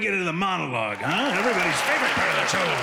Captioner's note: applause